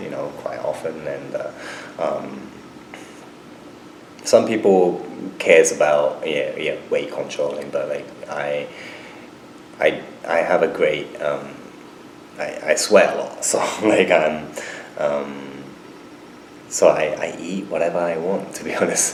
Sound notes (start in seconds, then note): 12.9 laughs